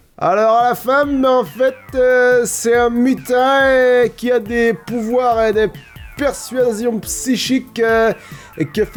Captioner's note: southern accent